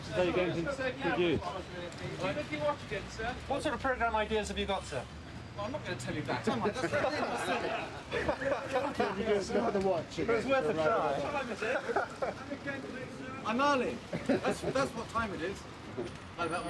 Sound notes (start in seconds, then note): 6.4 reporters laughing; 8.9 reporters chattering